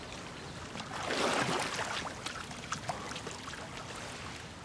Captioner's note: water splashing